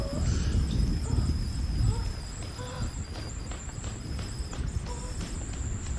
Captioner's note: moaning continues